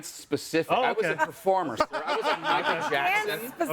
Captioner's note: laughs